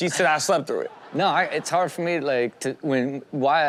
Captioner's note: audience laughs